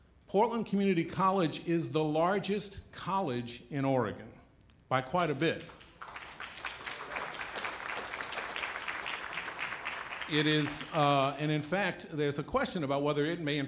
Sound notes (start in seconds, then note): 5.6 applause